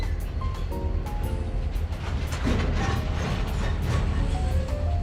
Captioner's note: subway car creaking